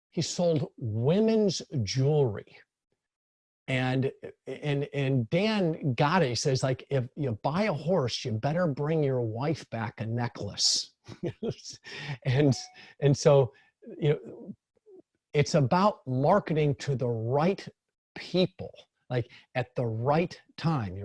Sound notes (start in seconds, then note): 12.2 laughs